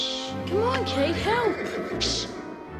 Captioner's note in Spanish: relincho del caballo